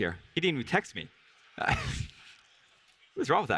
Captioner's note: laughs